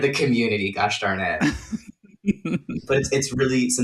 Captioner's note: laughter